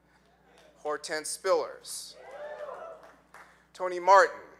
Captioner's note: audience cheering